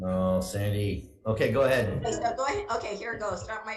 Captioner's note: chuckles